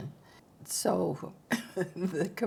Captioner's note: chuckles